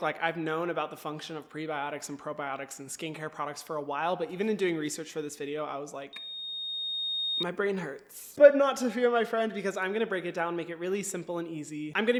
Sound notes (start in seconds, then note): 6.1 microphone feedback